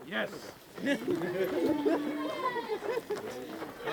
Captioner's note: laughter